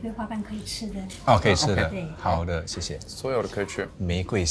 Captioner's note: in Mandarin